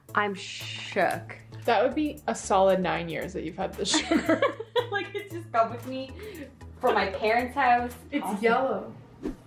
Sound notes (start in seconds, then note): 3.9 laugh